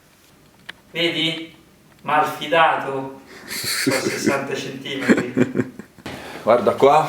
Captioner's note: laughs